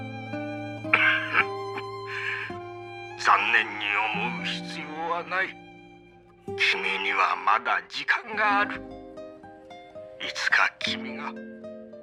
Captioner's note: coughing